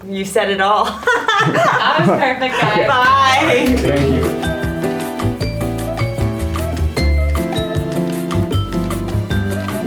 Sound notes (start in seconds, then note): 0.9 group laughing; 4.4 upbeat music